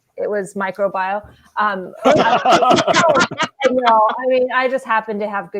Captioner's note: laughing